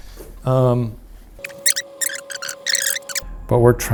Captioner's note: tape fast-forwarding